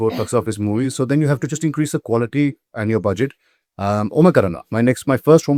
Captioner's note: clears throat